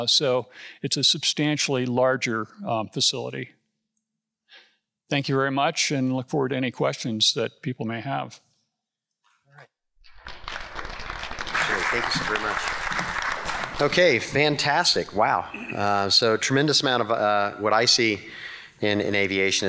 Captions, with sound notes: So it's a substantially larger facility. Thank you very much, and look forward to any questions that people may have. (congregation clapping) - Sure, thank you very much. Okay, fantastic. Wow! So a tremendous amount of what I see in aviation